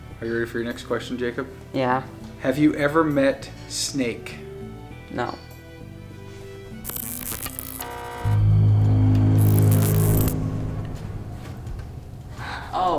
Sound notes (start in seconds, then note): 6.8 detector buzzes; 9.4 ominous tone